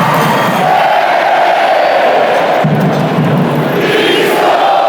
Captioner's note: crowd chanting